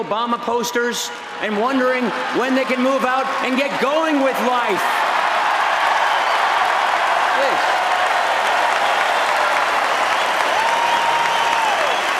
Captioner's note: applause